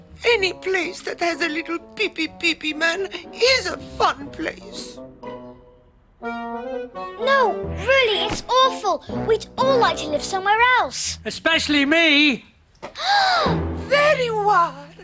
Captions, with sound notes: - Any place that has a little pee-pee pee-pee man is a fun place! - No, really, it's awful, we'd all like to live somewhere else. - Especially me! - [GASP] Ah! - There you are!